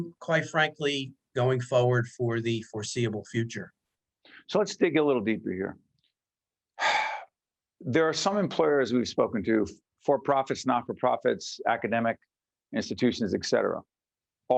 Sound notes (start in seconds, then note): 6.7 sigh